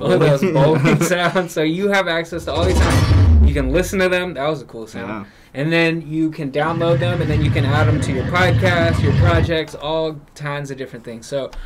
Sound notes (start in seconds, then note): 2.4 sound effect